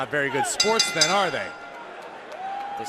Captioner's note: bell